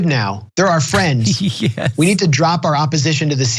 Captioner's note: laugh